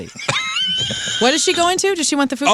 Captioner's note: laughing